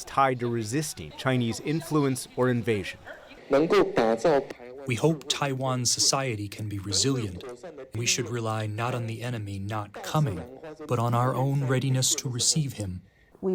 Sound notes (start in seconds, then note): 5.6 through translator